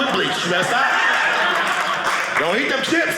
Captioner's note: audience laughing